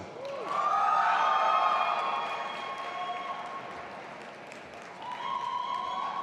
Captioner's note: audience applauding and cheering